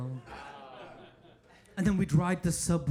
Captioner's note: audience laughing